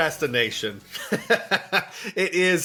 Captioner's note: laughs